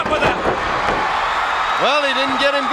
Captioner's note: crowd cheers